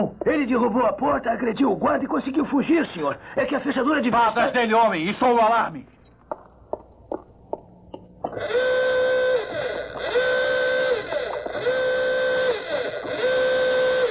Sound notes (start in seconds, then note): 8.3 alarm sounding